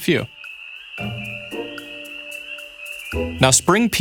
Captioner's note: spring peepers peeping